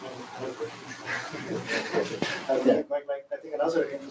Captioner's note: laughter